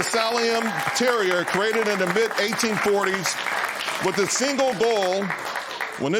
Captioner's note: applause